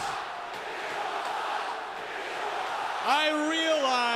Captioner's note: crowd cheering